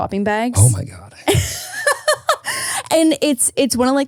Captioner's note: laughing